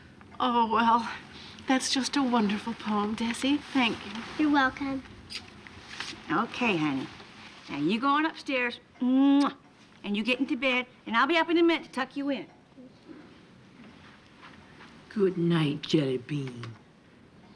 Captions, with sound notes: - Oh, well, that's just a wonderful poem, Desi. Thank you. - You're welcome. - Okay, honey. Now you go on upstairs. (kiss) And you get into bed. And I'll be up in a minute to tuck you in. - Goodnight, jelly bean.